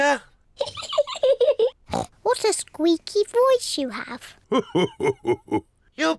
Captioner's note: laughs